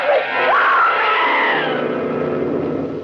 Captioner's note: screaming